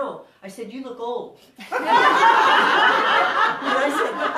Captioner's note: audience laughing